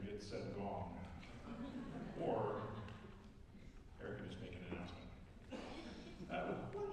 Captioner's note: laughter